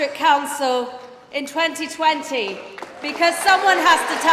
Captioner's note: applause